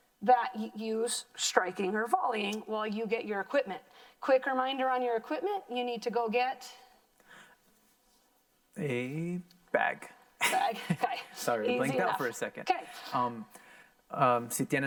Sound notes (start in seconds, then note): 11.6 laughs; 14.6 in foreign language